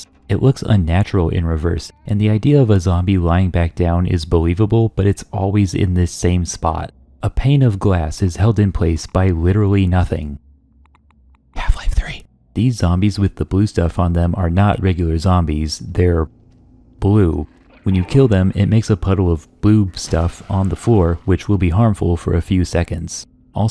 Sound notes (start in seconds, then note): 11.3 whispers